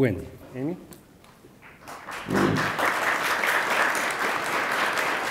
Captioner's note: attendees applauding